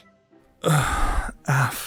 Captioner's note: sigh